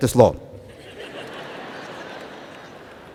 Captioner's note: laughter